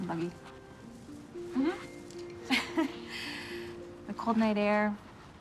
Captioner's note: laughing